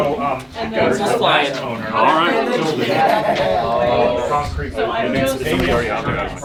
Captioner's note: participants chattering indistinctly